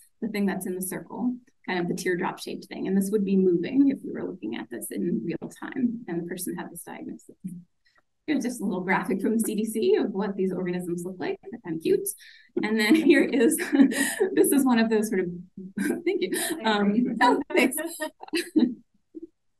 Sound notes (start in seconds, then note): 15.8 laughs